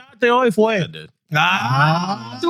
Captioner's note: speaking In Foreign Language